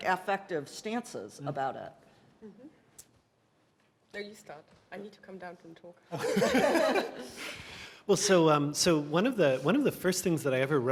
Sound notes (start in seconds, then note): 6.1 laughter